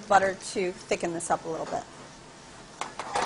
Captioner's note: sizzling